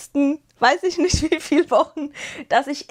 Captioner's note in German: gelächter